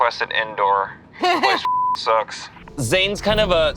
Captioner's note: beep